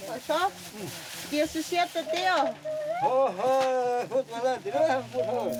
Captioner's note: speaking in foreign language; villager speaking in foreign language